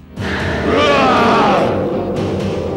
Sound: grunting

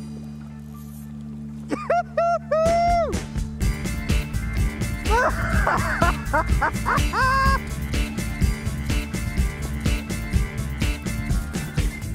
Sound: laughing

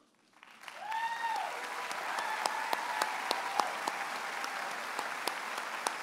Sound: audience applauds and cheers

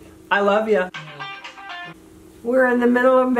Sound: phone ringing

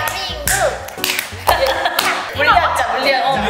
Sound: clap

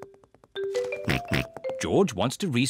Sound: snorts, giggles; snorts

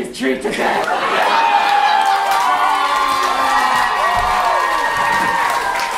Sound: cheers and applause

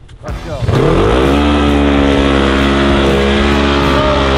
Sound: engine roars

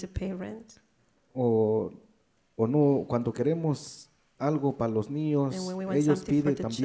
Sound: speaks in foreign language

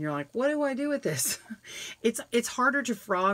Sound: chuckles

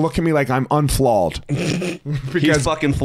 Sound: chortles; chuckling

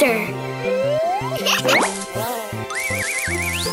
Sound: laughs

